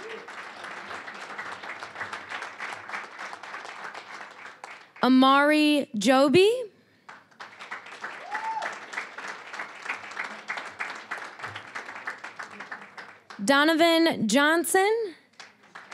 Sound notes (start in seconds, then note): 0.0 applause; 7.0 applause, cheering; 10.2 applause